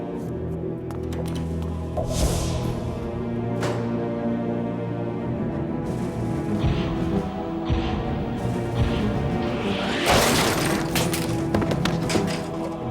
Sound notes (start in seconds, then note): 2.0 knight whooshes; 6.4 dramatic music; 10.2 objects clattering